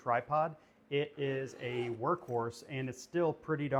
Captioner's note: zipper zips